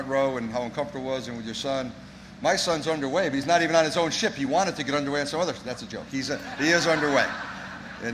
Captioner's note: laughter